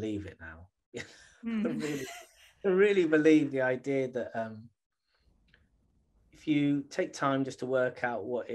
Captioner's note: laughter